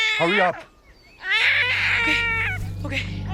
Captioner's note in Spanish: Llanto del bebé